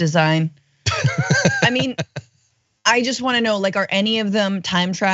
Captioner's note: laugh